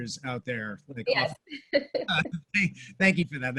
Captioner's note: laughs